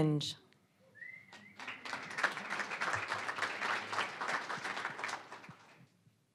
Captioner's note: applause